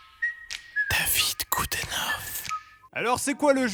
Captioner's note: whispering